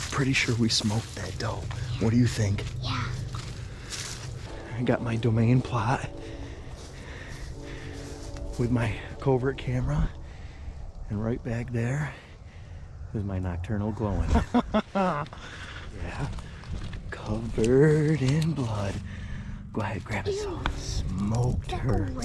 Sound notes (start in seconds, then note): 14.3 laughs